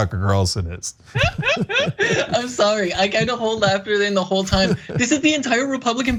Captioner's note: laugh